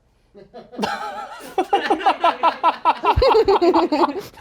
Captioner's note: everyone laughs